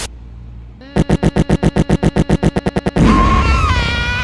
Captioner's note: glitching farting noises; screaming sounds